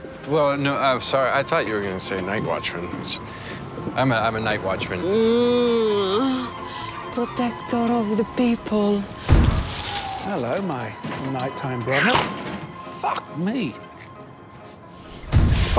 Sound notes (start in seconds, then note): 4.9 moaning